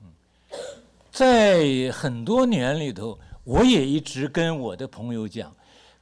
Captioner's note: speaks Mandarin